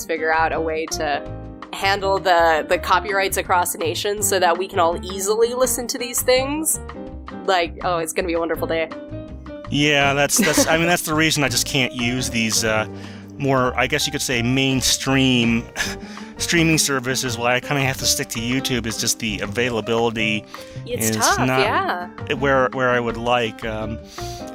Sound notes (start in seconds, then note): 10.3 laughs